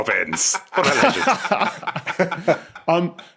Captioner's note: group laughing